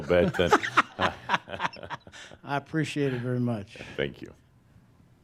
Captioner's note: laughing